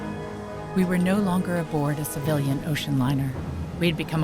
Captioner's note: voiceover